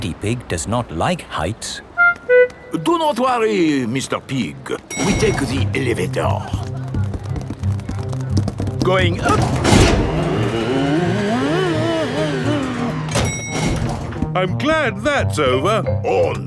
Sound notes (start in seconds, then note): none